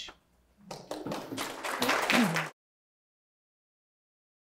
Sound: audience clapping

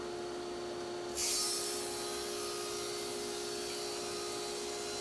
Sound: saw buzzes

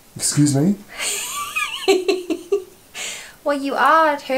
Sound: laughs

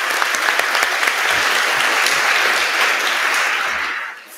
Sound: applause

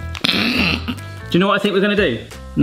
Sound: playful, upbeat music; laughing

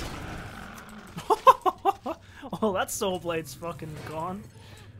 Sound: laughing

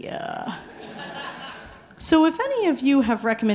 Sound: audience laughing

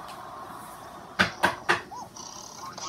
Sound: knocking

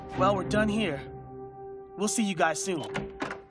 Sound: door opening

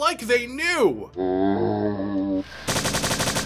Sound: zombie groan

